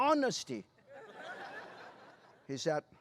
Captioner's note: laughter